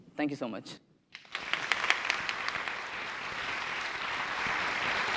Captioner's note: applause